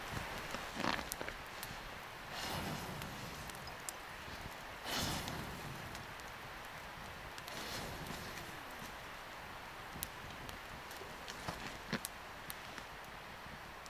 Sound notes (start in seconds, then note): 5.6 fire crackling